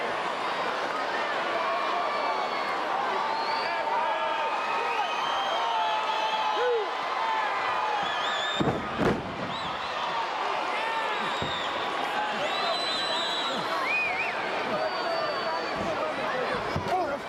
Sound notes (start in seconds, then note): 13.3 crowd chattering